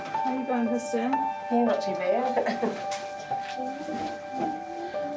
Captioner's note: chuckles